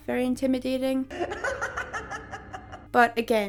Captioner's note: High-pitched Joker laugh